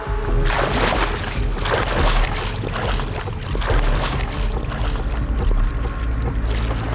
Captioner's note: ominous music playing; water sloshing